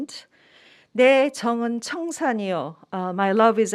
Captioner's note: speaking in Korean